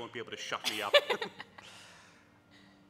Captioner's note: laughs